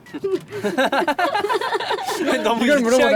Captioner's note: laughter